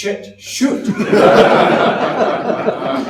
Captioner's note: audience laughs